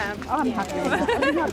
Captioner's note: giggles